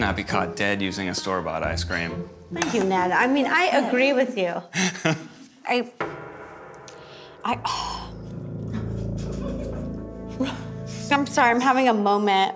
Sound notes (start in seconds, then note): 7.6 sighing; 8.7 giggling